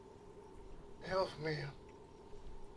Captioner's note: in German